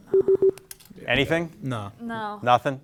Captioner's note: beeper beeping